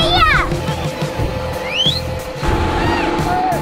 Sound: whistle

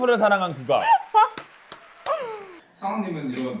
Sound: applauds; laughs

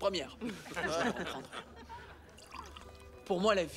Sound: all laugh

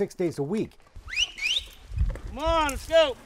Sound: whistles

